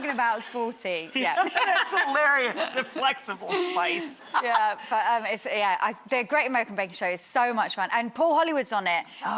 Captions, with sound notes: about Sporty, yeah. Yeah, that's hilarious. Flexible Spice. (laughs) Yeah. But, the Great American Baking Show is so much fun, and Paul Hollywood's on it... Oh gosh.